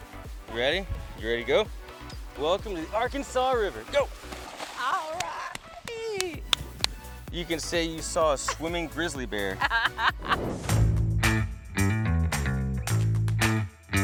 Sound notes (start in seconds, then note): 4.7 laughs